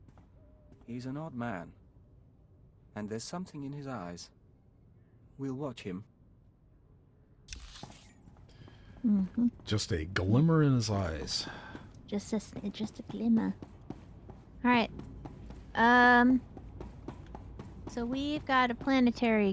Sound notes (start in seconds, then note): none